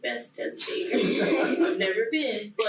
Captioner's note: laughing loudly